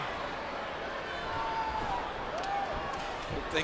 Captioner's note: crowd shouts